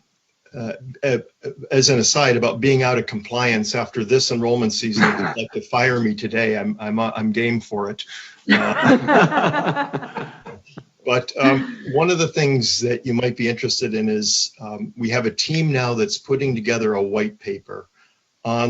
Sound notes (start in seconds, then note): 8.4 laughing